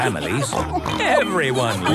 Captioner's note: snorts